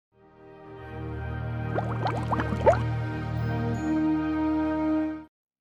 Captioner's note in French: Le goblet fait un bruit de bulles